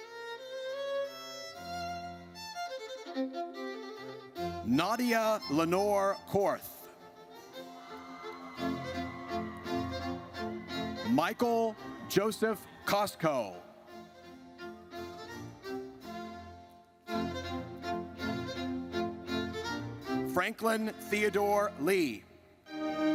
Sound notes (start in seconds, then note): 0.1 triumphant music; 7.6 audience cheers; 14.2 triumphant music